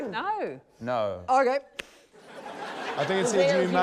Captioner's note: laughter